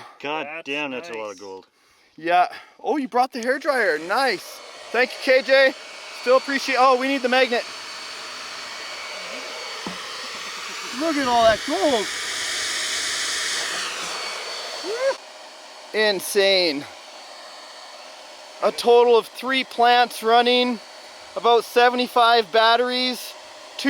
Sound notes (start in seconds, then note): 13.0 air blowing